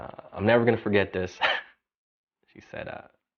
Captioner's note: chuckles